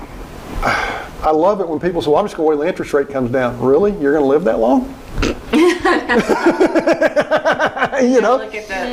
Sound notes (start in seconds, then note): 5.3 laughing